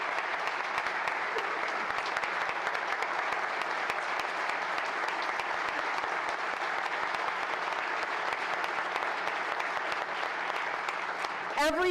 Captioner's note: applause